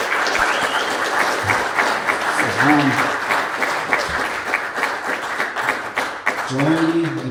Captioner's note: applause